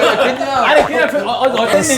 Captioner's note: stammering